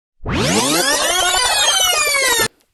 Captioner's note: tape rewinding